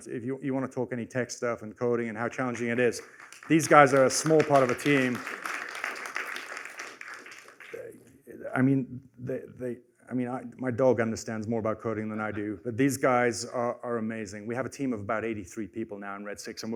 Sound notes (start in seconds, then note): 5.1 applause